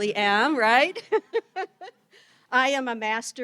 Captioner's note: all laughing